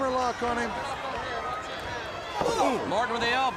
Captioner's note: crowd cheering